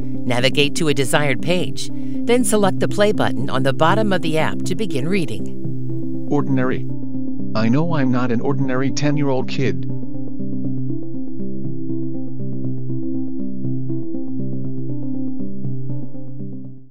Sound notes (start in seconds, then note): 5.1 text is read out loud